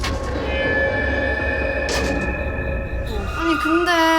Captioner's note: sullen SFX